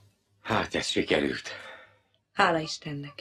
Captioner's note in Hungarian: sóhajt